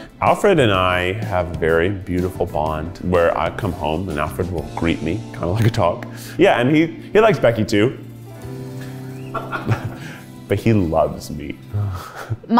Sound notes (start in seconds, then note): 9.3 chuckles; 9.3 crew laughs